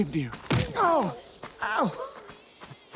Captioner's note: Homer grunts